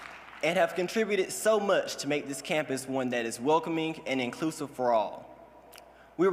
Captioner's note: cheers and applause